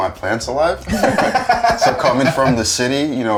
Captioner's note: laughing